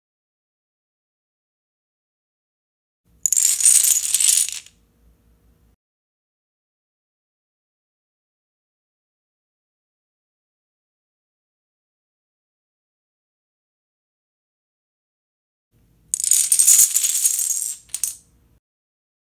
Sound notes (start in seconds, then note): 3.2 dominoes falling; 16.1 dominoes falling